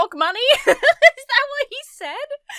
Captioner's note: laughs